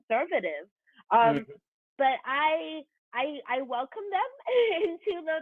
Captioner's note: chuckles